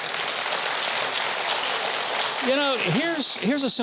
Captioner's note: audience applauds